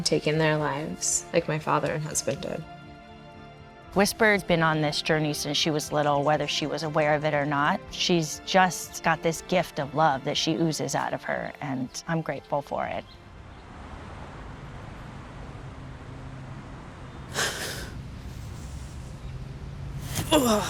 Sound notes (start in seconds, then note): 14.0 gentle breeze blowing; 17.3 whisper crying